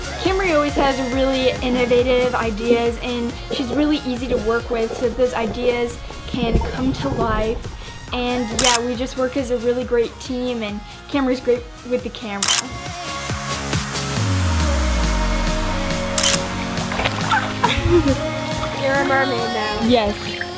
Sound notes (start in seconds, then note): 0.0 upbeat music; 12.4 upbeat music; 12.4 camera clicking; 16.1 camera clicking; 17.0 upbeat music